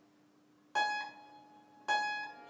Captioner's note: individual high tones